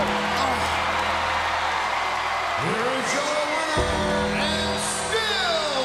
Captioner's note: applause